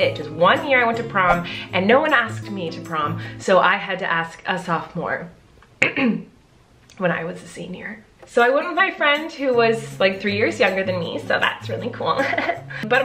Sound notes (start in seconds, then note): 5.8 clears throat; 12.2 chuckles